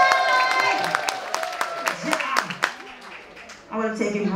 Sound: audience applauding and cheering

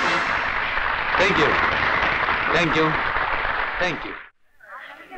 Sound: applause

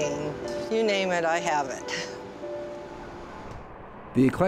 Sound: laughs

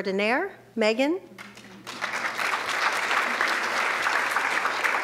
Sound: audience clapping

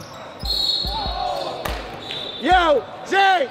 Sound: whistle tweets; overlapping chattering

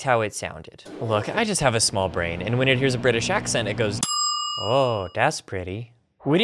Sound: ding

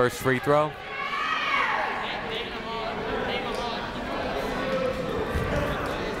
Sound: people shouting in the crowd

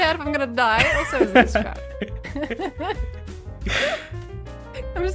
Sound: both laugh

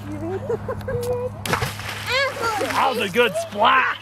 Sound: water splashing

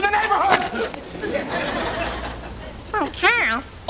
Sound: audience laughs

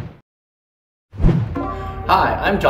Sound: swoosh

